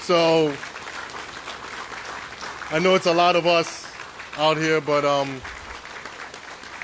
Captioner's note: applause